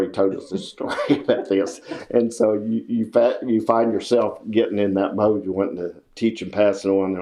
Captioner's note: laughs